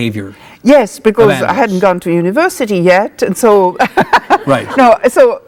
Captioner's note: laughs